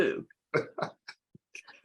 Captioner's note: laughs